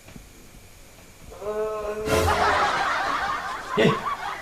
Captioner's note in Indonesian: menguap